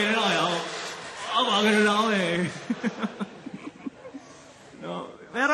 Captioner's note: chuckles